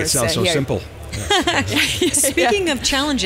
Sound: laughing

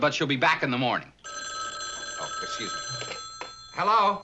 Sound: telephone ringing

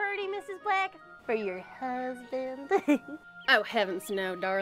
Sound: chuckles

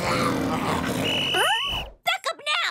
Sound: growling; whistle blowing

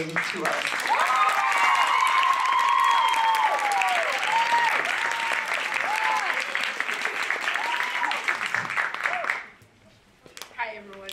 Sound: applause

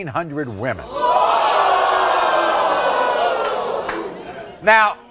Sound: audience gasping

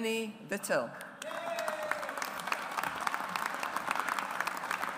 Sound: audience applauds

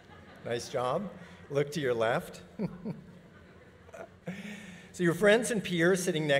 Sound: audience laughing; audience laughing

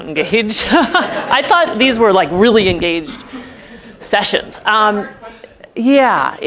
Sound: laugh

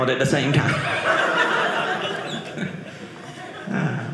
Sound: audience laughing

